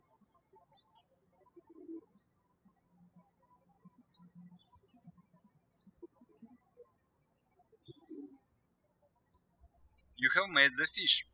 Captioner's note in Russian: птички щебечут